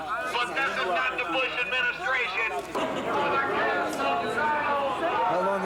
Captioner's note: megaphone voice in background